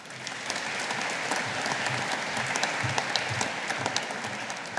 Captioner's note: audience applauding